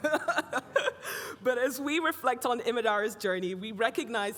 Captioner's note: everybody laughing